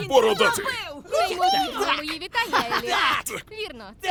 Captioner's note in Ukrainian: сміється